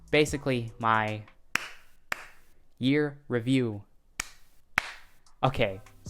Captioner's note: clap clap